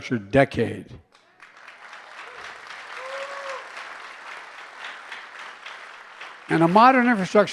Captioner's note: applause